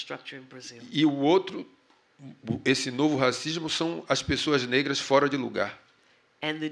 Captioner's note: speaking portuguese